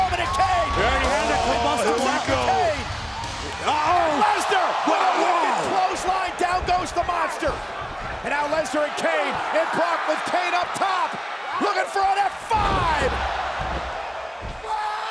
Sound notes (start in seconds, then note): 0.3 overlapping chatter; 2.3 crowd cheering; 4.6 overlapping chatter; 12.4 body thudding